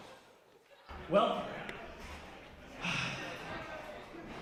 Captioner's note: sighing